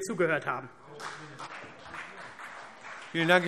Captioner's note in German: Beifall CDU und BÜNDNIS 90/DIE GRÜNEN